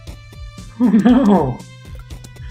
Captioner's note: laughing